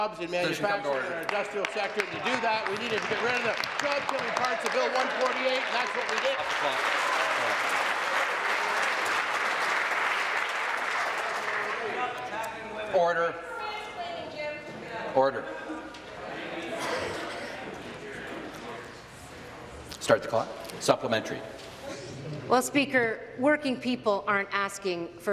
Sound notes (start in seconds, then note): 8.3 applause